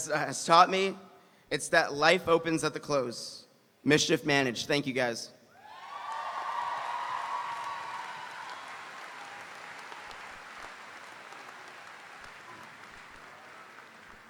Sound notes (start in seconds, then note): 5.6 audience cheering; 5.7 audience applauding